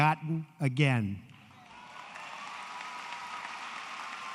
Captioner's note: applause